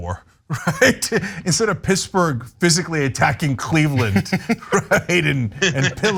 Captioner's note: laugh